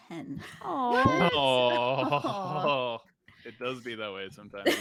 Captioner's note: group groans